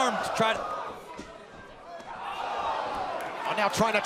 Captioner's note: crowd cheering